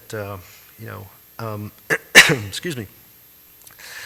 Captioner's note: coughs